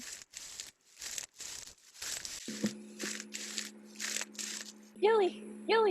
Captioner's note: footsteps on dirt